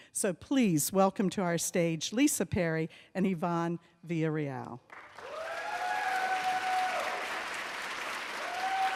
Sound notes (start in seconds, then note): 5.1 audience cheers